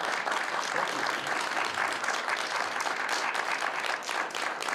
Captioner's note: applause